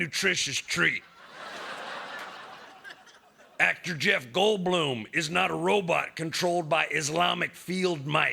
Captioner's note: laughter